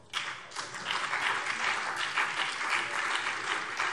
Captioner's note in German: Beifall BÜNDNIS 90/DIE GRÜNEN und CDU